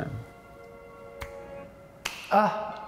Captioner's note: snap